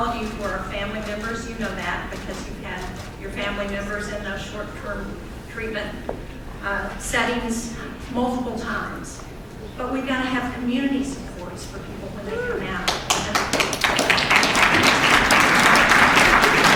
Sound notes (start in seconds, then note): 13.8 cheering; 14.4 applause